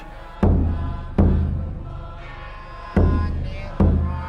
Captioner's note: people chanting